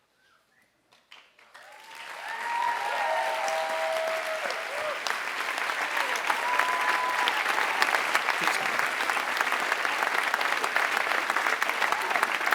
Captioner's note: applause